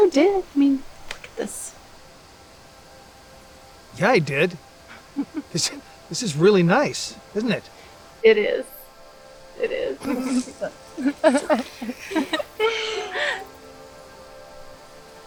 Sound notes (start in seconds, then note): 4.9 laughs; 5.0 Bonnie chuckles; 10.0 girls giggling